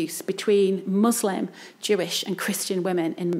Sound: none

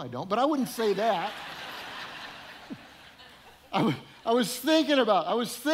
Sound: audience laughing

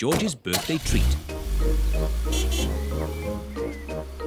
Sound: horn honks

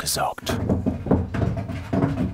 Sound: rumble

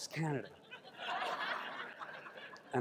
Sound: crowd laughs

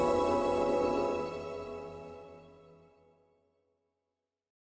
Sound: graphic whooshing

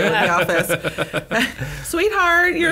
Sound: laughter

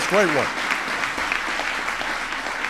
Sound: applause

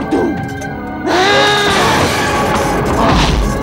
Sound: grunting; groans

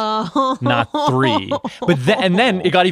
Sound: laughs

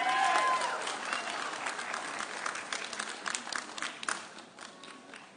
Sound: audience cheering

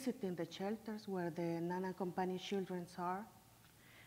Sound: foreign language

